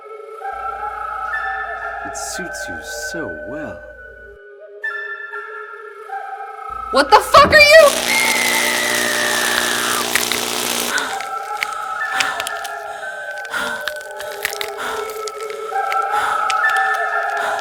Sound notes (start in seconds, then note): 6.9 Lana yells; 7.5 electricity crackling; 9.9 Lana gasping; 11.2 eerie music